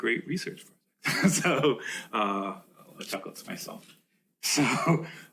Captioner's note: chuckles